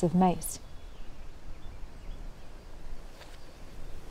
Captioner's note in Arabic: طيور تغرد بهدوء